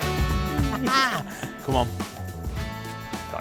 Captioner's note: bright, upbeat music; laughs